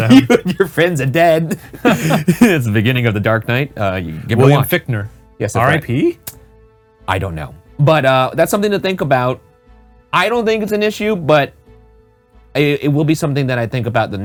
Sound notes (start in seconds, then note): 1.4 both laughing; 1.5 laughs